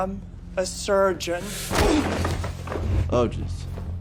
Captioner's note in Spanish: ambos gruñen